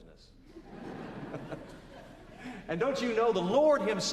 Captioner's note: laughter